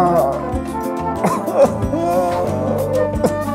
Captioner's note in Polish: Dźwięk podobny do szlochu